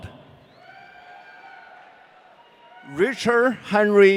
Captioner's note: audience cheering